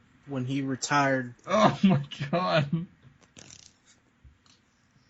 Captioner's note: laughing